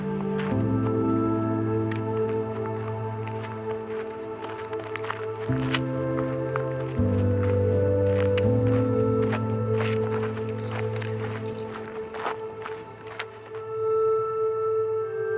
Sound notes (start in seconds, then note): 0.1 slow soothing music continues; 6.2 footsteps in gravel